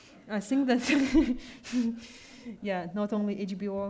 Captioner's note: laughs